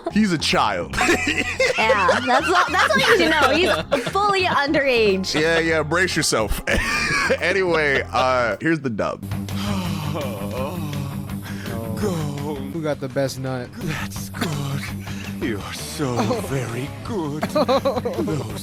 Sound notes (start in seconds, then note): 0.9 laughing; 9.5 groaning